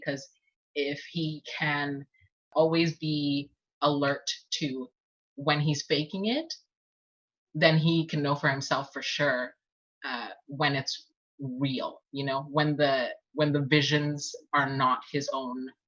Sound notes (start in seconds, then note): none